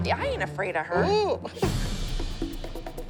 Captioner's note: laughs